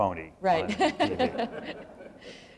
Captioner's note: laughter